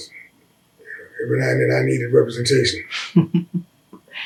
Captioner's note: laughter